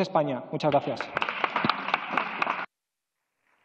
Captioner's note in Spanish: Aplausos